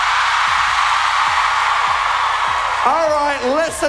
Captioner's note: cheering